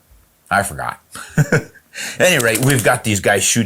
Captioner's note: laughs